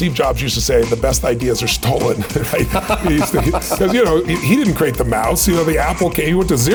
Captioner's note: chuckle